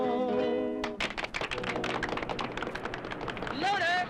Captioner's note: group applauds